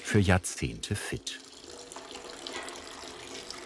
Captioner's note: splashing